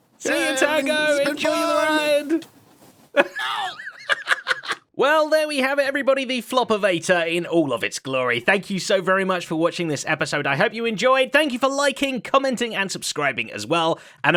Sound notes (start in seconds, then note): 3.2 laughs